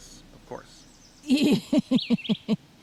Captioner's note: laughter